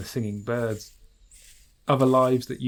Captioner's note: footsteps sounds rustle